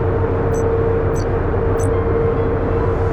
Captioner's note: clicking sounds